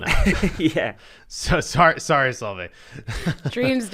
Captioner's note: laughs